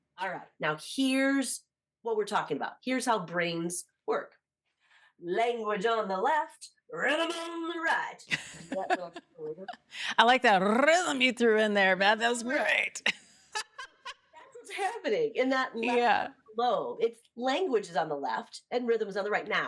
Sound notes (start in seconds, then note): 8.3 laughs; 13.5 laughs